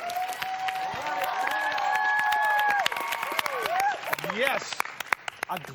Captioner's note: cheers and applause